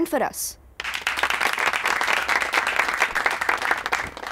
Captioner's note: Clapping